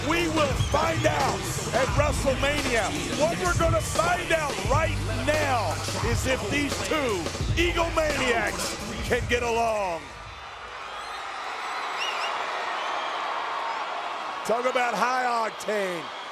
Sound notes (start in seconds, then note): 10.5 audience cheering